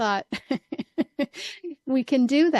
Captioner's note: laughs